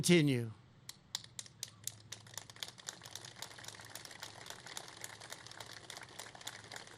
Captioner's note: applause